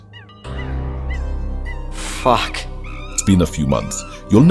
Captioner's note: dramatic sounds